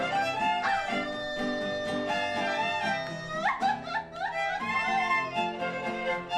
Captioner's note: Grito